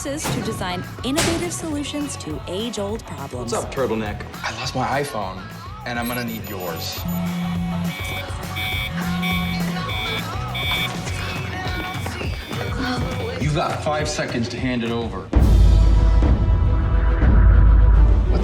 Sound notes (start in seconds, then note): 6.8 cell phone buzzing; 7.6 alarm blaring; 15.4 dramatic music